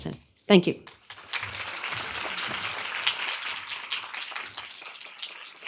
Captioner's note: audience applauding